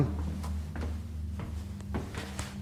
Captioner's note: footsteps